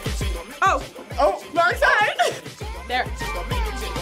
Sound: laughs

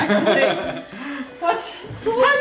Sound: laughs

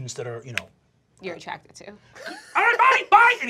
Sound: laughter

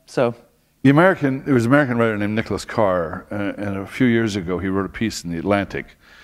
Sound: none

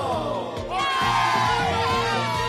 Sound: cheering

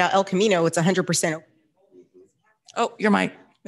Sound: audio cuts away

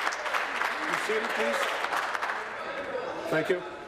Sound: applause

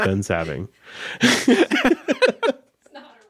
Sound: laughing

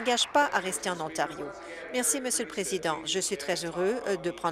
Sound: applause

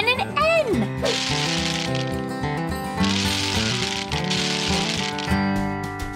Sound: bingo balls rattling

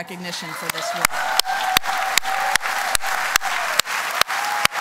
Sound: applause

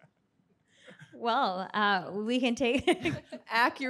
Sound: laughs

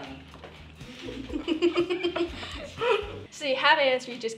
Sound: coughing; laughing

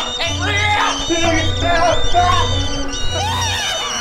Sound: sad panicked whimpers; high pitched scream

